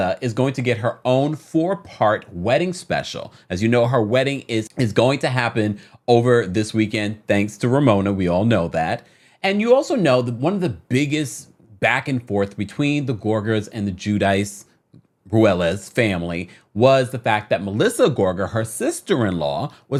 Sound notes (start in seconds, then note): none